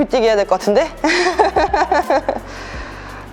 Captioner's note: laughter